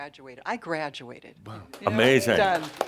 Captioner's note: audience applause